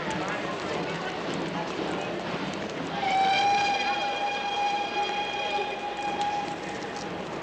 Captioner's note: train Chugging, Whistle Blowing